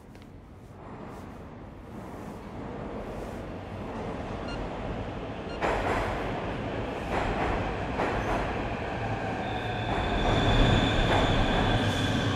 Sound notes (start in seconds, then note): 1.2 subway approaching; 4.5 phone beeping; 11.4 subway brakes sqeaking